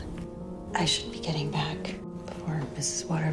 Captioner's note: voiceover